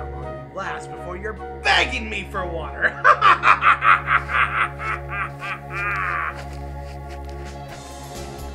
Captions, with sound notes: We'll see how long you last before you're begging me for water. (laughing)